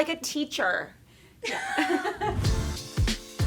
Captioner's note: laughing; upbeat music